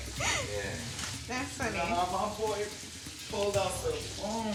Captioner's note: laughs